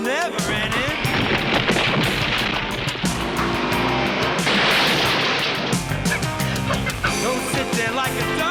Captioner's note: gunshots